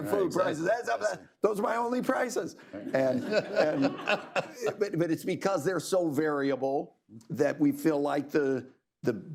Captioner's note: laughter